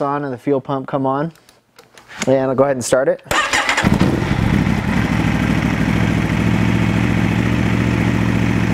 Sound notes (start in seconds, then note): 3.6 motorcycle engine rumbling